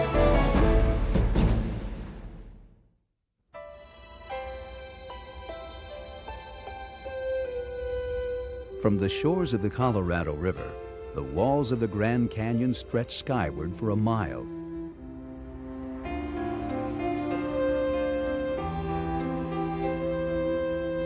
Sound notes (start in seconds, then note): 3.9 light orchestra music; 8.7 voiceover